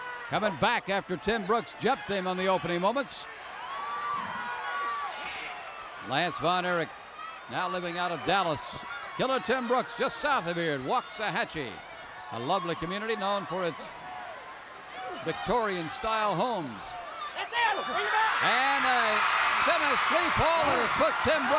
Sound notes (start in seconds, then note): 18.8 crowd cheers